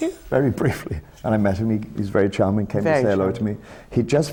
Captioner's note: laughs